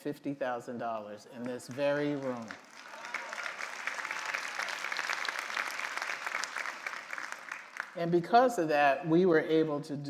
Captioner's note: applause